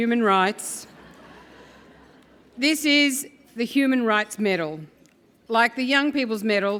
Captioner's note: laugh